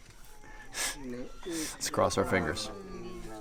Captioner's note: chuckles